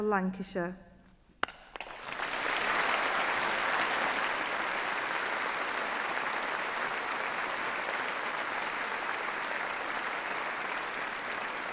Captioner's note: applause